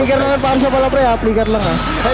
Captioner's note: commentator 1, in English; in Tagalog